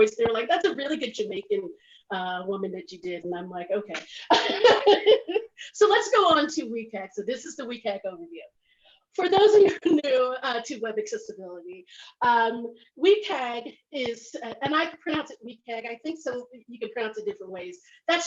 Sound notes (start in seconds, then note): 4.2 laughs